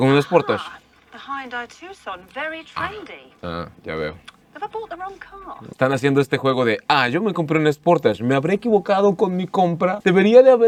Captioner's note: woman speaking in English